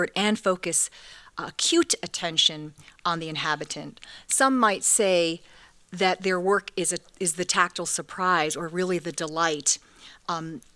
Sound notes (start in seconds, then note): none